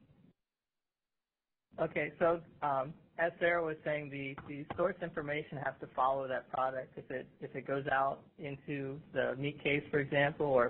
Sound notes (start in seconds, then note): 2.1 voiceover